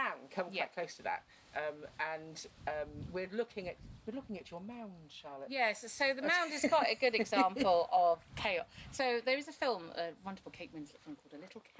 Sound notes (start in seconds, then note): 6.3 laughs